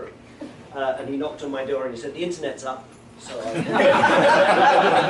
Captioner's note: laughter